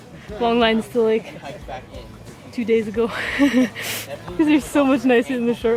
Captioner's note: laughs